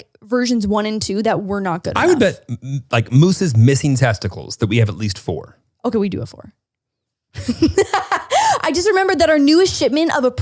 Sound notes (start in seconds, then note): 7.4 laughs